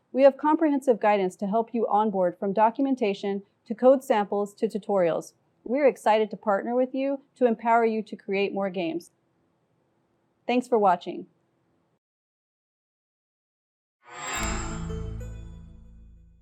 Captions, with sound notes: We have comprehensive guidance to help you on-board from documentation, to code samples to tutorials. We're excited to partner with you to empower you to create more games. Thanks for watching. [CHIME]